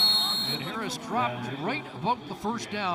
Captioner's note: crowd din